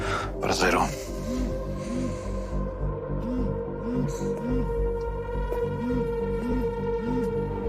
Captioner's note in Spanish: Vibra el celular